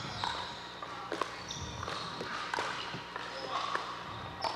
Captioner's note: ball bouncing